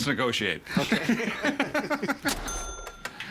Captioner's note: laughing